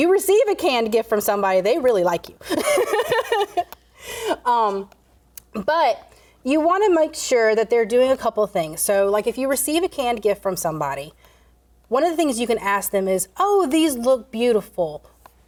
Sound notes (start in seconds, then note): 2.5 laughs